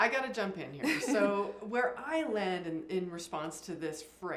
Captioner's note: laugh